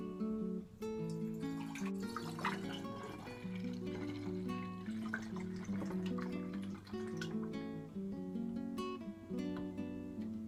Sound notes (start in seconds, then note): 0.0 soft guitar music; 1.0 sound of liquid pouring